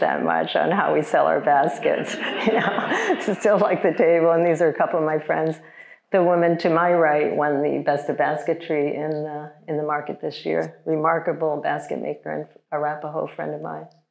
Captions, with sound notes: that much on how we sell our baskets. (chuckles) (audience laughing) To still like the table. And these are a couple of my friends. The woman to my right won the best of basketry in the market this year. Remarkable basket maker and Arapahoe friend of mine.